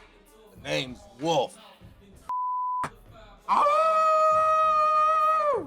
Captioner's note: howling